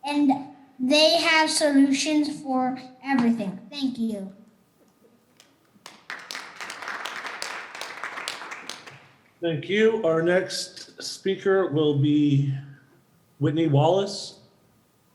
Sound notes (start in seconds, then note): 5.4 audience clapping